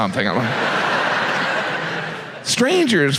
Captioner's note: audience laughs